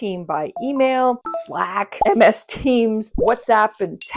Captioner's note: notifications ding